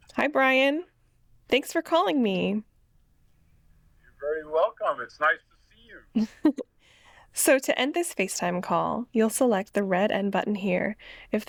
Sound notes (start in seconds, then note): 6.1 chuckles